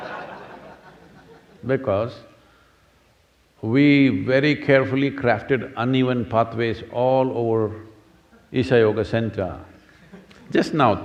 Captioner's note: laughter